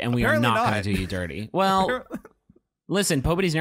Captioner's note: laughing